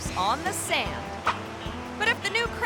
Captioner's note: image whooshes